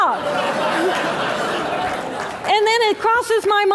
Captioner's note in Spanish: Risas